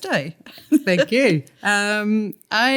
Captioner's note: laughter